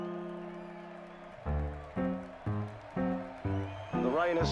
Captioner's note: crowd cheering